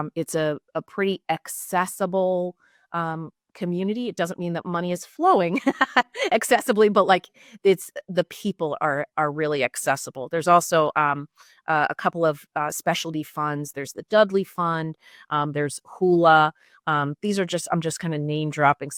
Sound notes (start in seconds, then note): 5.5 laughs